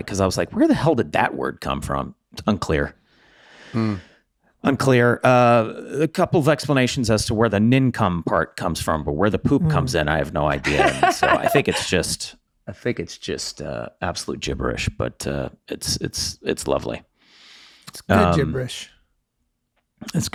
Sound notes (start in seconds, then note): 10.4 laughing